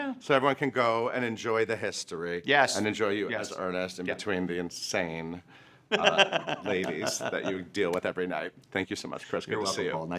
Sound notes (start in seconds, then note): 5.9 laughing